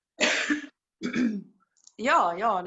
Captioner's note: coughs